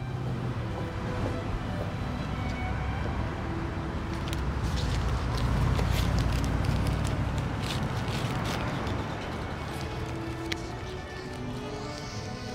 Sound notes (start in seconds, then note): 4.1 plastic rustling; 9.2 mellow music